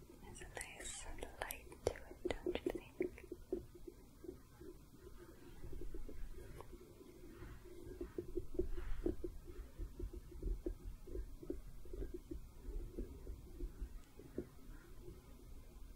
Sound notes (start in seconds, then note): 4.2 light tapping